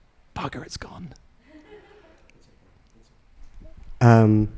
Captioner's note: audience laughing